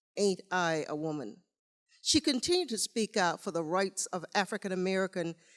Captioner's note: none